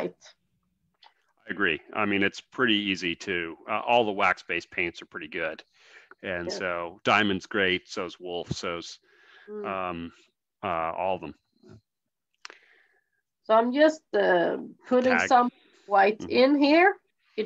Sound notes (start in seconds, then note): none